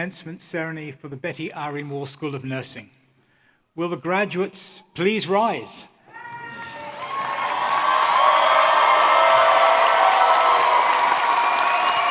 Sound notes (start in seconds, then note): 6.5 applause; 9.9 cheering